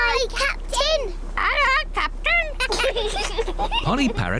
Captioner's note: children giggle